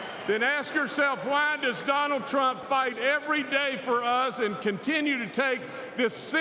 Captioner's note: applause